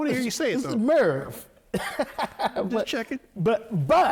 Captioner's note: laughing